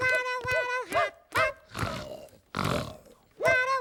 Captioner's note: snore snore